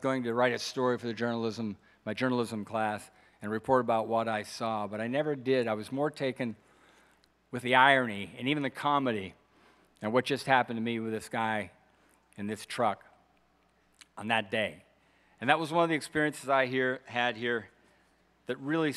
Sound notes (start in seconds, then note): none